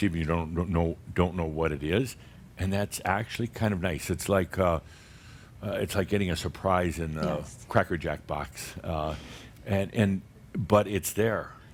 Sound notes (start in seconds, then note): none